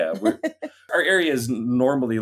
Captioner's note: chuckles